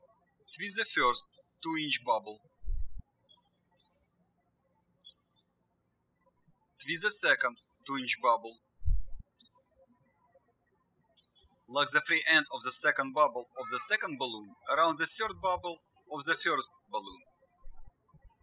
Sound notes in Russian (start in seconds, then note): 2.5 птички щебечут; 18.2 птички щебечут